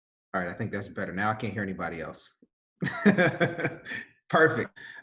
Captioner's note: laughs